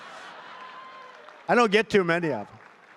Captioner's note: laughter